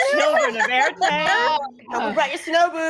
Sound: group laughing

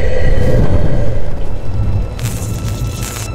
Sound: wind howling; electricity fizzes

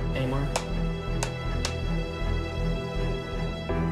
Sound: board clapping

